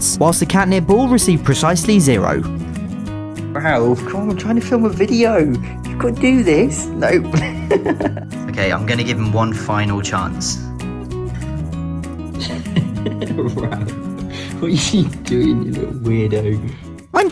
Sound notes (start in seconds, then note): 7.1 masculine laughter; 12.4 sleep-deprived laughter